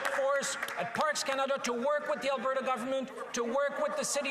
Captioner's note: some Applause